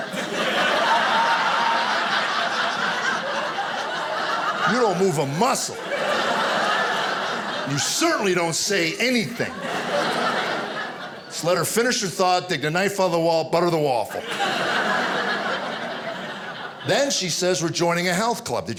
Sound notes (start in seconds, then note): 0.1 audience laughing; 13.8 audience laughing